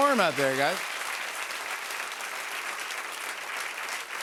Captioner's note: cheers and applause